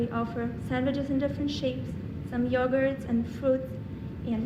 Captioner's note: none